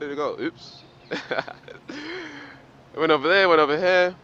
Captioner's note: laughs